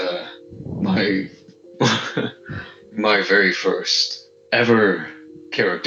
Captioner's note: a little less nervous laughter